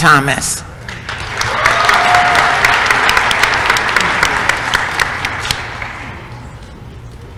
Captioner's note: applause